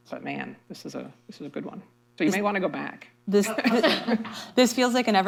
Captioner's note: laughter